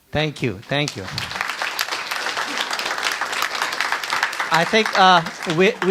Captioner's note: audience applauds